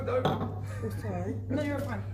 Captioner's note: glass clinking